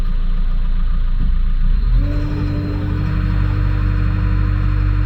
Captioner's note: truck engine whirring